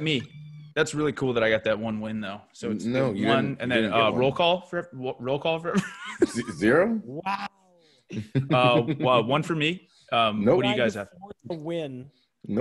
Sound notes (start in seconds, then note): 8.1 laugh